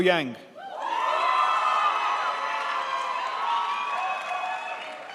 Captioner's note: crowd applauds